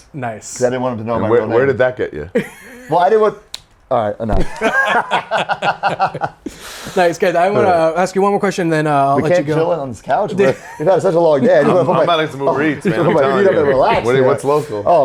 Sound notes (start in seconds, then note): 4.4 all laugh; 4.4 laughs